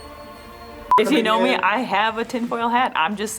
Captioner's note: test tone beeps once